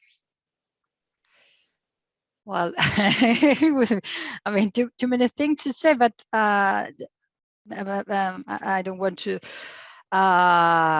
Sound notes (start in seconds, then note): 2.8 chuckles